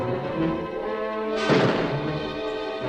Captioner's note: gunshot